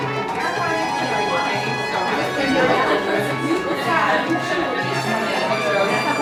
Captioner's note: indistinct audience discussion, pre-performance music plays